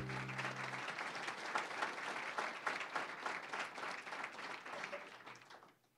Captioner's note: applause